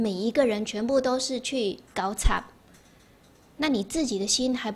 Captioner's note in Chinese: 台語